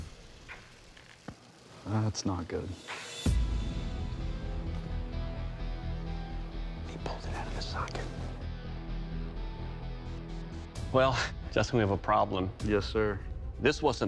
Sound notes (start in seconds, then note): 5.8 whispering